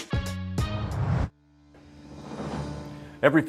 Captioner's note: whoosh